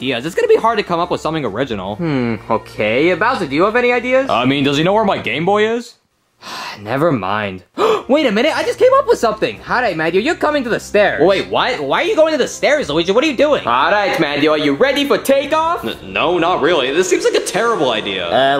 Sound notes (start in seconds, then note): 7.7 Luigi gasping; 7.7 Luigi sighing